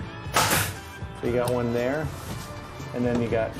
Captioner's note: nail gun popping